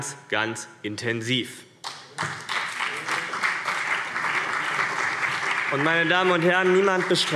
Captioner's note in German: Beifall BÜNDNIS 90/DIE GRÜNEN und vereinzelt CDU